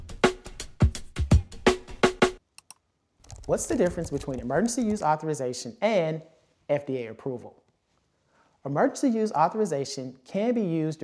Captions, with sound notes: (clicking sound) What's the difference between emergency use authorization and FDA approval? Emergency use authorization can be used